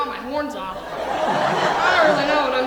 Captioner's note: audience laughing